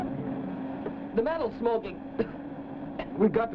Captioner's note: coughs